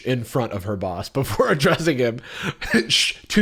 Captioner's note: chuckles